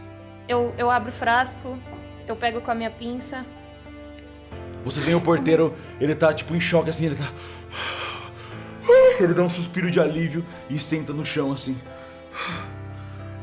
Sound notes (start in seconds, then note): 8.8 sigh